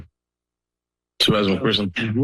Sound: pause

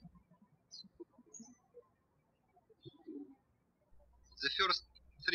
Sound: birds chirping

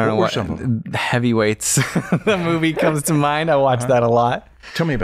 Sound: laughter

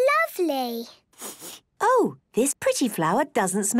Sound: sniffs

